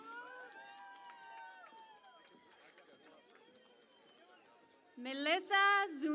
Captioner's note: cheering and Applause